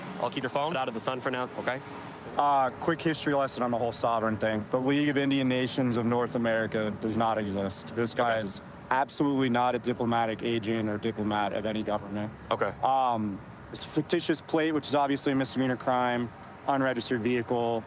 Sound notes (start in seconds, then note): none